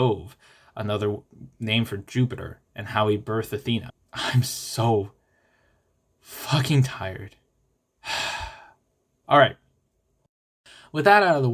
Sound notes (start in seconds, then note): 8.0 sigh